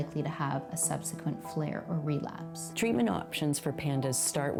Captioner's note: none